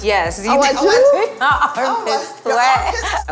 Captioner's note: laughter